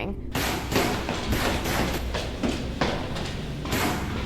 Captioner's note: gun banging